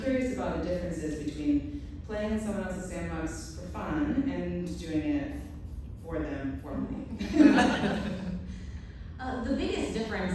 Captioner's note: laughter